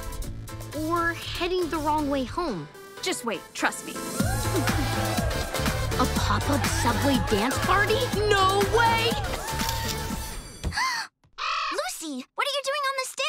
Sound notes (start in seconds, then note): 4.1 all cheering; 8.7 gasping